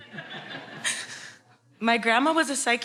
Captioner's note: audience laughs